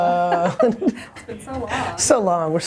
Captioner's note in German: Lacht